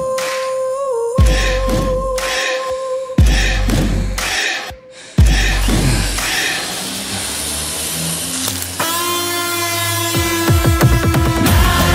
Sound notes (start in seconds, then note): 7.1 screaching